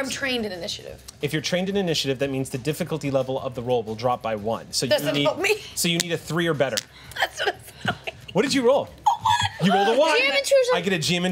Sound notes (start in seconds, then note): 7.2 laughs